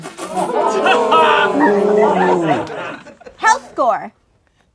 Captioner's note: laughing